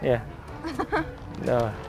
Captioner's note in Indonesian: ketawa